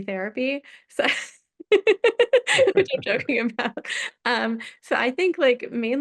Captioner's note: laughs